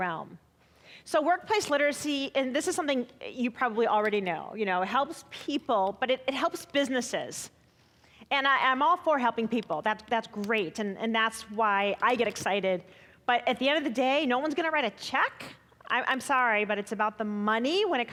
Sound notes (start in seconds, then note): none